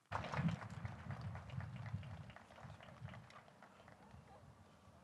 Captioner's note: audience applauds